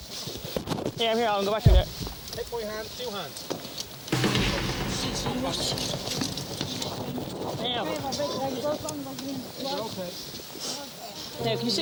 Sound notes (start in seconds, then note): 4.0 people chatting; 4.0 dramatic music